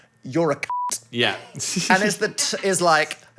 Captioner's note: beep